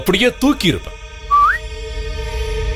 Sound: whistles

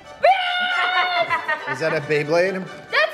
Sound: upbeat music playing; laughing

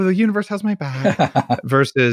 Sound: laughs

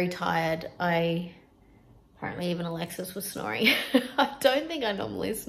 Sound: chuckles

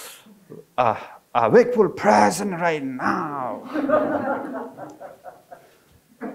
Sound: audience laughing

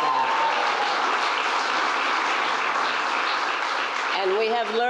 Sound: applause

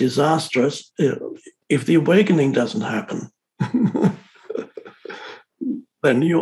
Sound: laughs

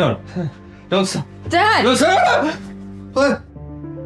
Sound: Michael screams

